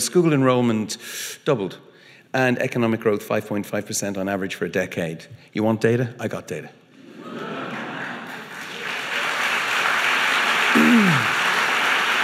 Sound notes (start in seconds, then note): 7.0 audience laughing; 9.0 audience applauding